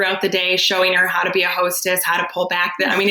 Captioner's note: laughs